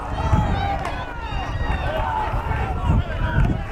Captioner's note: fans yelling